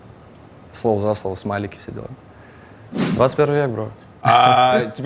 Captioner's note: chuckles